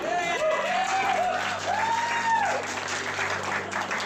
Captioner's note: everyone cheers and applauds